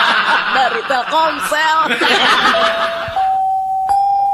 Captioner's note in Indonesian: tertawa